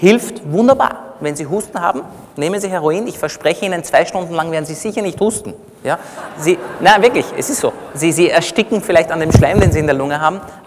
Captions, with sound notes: It works like a treat. If you have a cough, take heroin, and I promise you, for two hours you certainly won't be coughing. [Laughter] Really, that's how it is. You may choke on the mucus you have in your lungs,